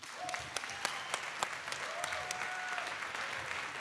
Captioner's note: applause